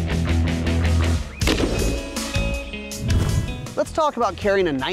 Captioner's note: gunshot